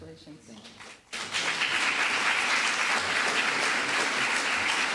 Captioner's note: applause